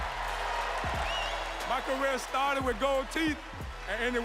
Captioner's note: cheers and applause